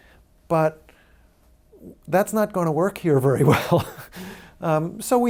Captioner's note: laughs